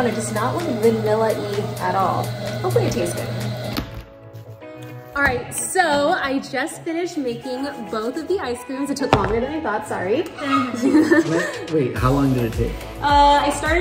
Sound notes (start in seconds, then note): 4.2 knife crunches; 10.4 laughs